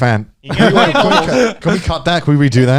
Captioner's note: laughing